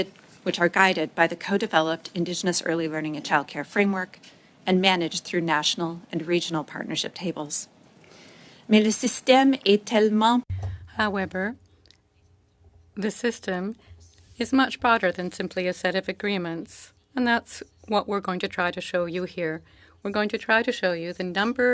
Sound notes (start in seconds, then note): 13.1 speaking French